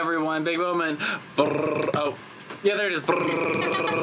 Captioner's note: imitating drum roll